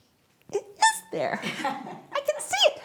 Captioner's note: audience laughs